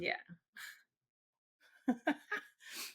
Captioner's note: laughs